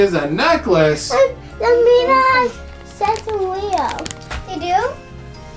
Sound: babbling

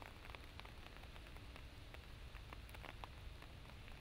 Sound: rain pattering

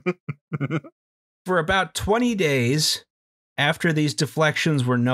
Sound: laughter

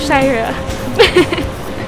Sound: giggles

